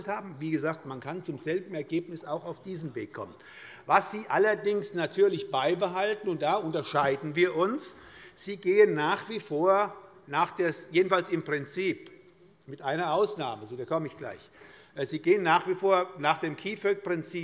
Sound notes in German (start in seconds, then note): none